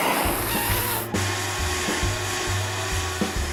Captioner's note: vacuum cleaner running